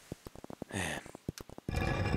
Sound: sigh

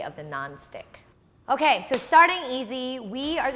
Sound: claps

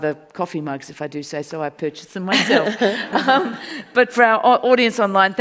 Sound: audience laughs

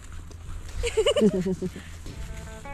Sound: giggle

